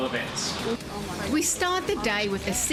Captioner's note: narrating